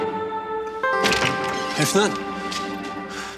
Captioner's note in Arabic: يفتح الباب